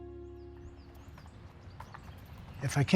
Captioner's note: birds chirping